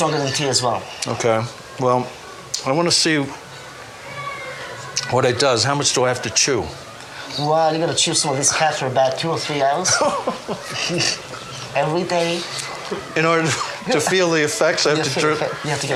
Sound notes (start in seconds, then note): 9.8 laughing